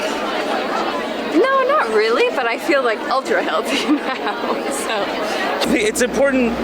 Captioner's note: laughs